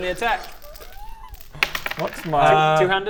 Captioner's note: excited noises